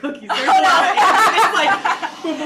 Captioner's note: all laugh